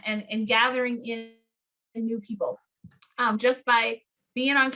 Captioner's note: audio distorting